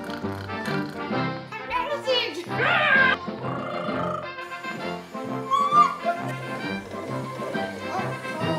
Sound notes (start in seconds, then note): 0.0 snorting; 2.8 grunts; 4.1 trills; 5.4 squeals